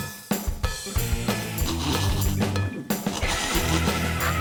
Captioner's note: sniggers; uproarious laughter